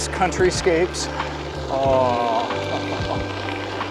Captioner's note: happy noises